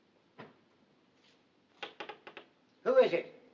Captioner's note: tapping